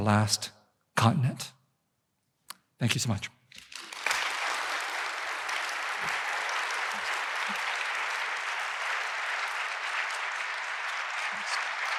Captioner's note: applause